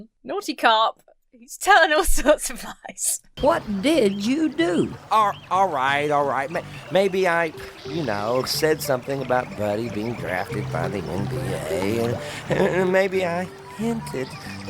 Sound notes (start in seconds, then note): 2.8 chuckles